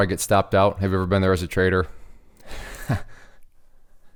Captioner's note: chuckles